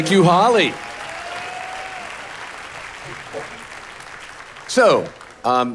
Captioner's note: audience applauding